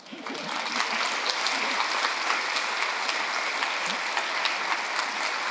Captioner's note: audience applauding